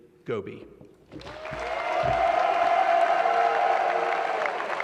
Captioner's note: applause